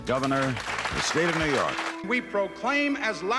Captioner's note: clapping; crowd